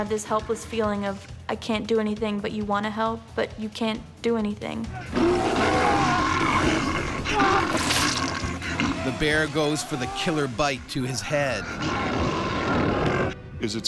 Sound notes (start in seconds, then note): 5.0 bear growling; 7.6 liquid squishing; 9.7 voiceover